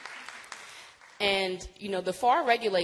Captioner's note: applause